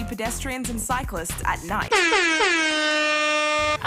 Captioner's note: horn blares